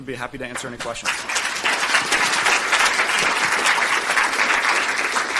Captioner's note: audience clapping